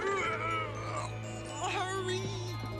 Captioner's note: grunting